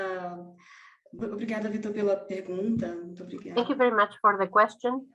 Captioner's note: speaking in foreign language